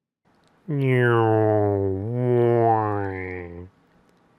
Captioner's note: juvenile airplane noises because I'm a child